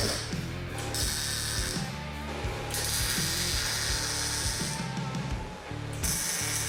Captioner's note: intense rock music; tool whirring